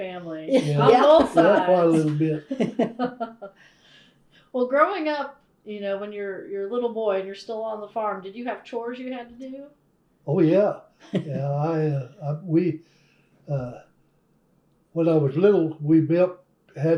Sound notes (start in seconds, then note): 0.5 laughter; 3.7 laughs